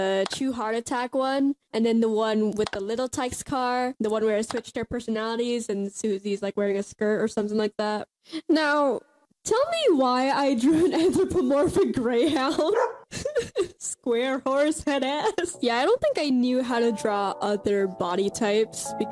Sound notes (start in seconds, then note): 12.3 laughs